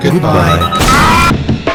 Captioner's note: explosion